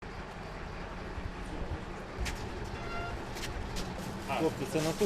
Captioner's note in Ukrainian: Звук двигуна вантажівки